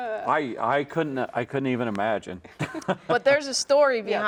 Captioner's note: laughs